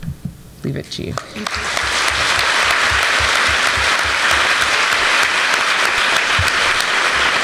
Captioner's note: applause